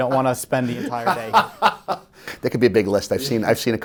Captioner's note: laughing